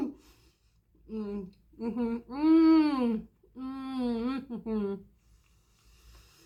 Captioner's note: laughing; happy mouth noises